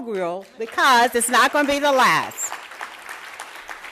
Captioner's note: applause